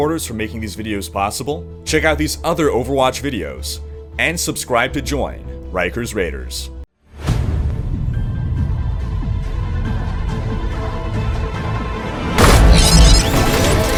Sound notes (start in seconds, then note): 7.2 whoosh